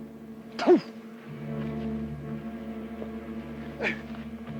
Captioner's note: Red Hawk spits